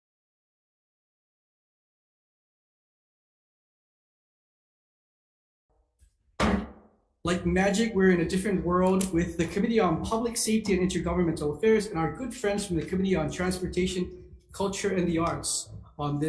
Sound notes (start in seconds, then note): 6.4 gavel bangs